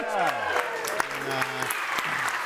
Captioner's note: audience cheering and applauding